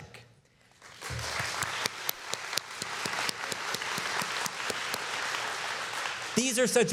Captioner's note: applause